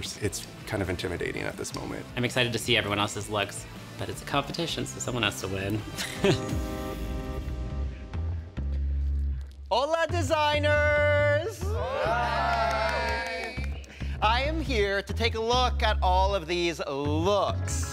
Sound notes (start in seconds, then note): 5.9 chuckles; 12.4 clapping